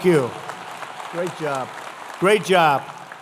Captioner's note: applause